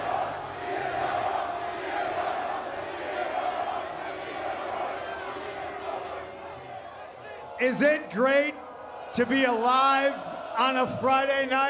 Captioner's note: crowd chanting "cm punk"